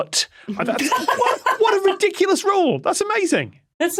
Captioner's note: laughs